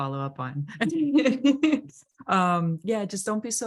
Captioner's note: laughs